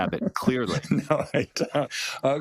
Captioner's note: laugh